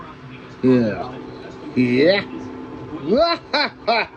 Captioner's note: laughs